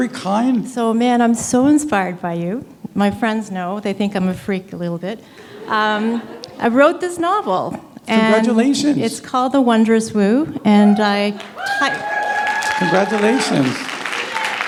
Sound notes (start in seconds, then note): 11.3 applause